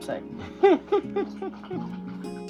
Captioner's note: laughing